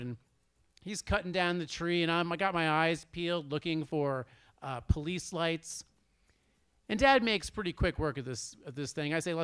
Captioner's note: none